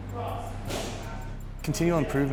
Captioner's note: background gym noise